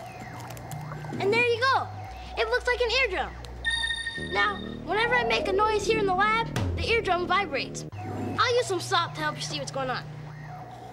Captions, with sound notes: AND THERE YOU GO. IT LOOKS LIKE AN EARDRUM. [ DINGS ] NOW, WHENEVER I MAKE A NOISE HERE IN THE LAB, THE EARDRUM VIBRATES. I'LL USE SOME SALT TO HELP YOU SEE WHAT'S GOING ON.